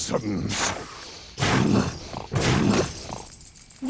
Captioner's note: snorting